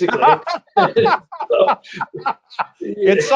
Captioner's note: laughs